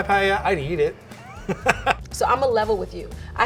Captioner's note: laughing